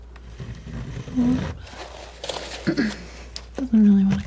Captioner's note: clears throat